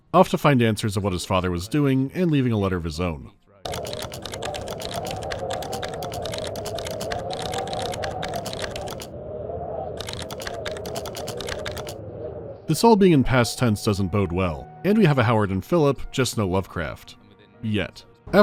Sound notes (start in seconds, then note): 3.6 clanking of a keyboard